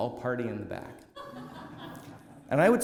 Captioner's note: laughter